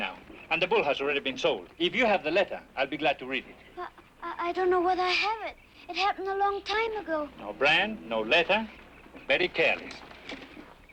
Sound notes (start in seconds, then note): none